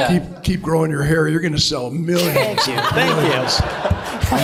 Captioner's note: laughter